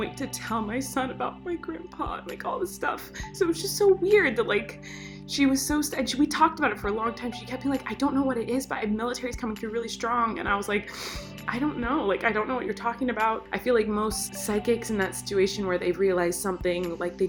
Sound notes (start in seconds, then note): none